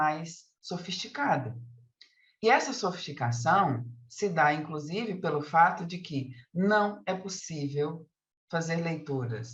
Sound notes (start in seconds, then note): 4.4 continues speaking in Portuguese